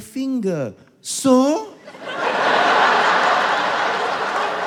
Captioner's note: incredulous